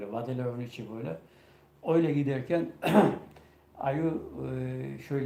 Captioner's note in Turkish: boğazını temizler